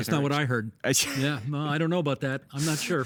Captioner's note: chuckling